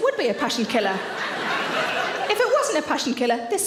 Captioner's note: audience laughs